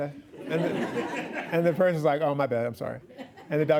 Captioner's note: laughing